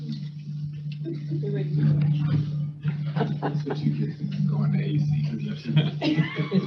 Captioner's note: speaker off microphone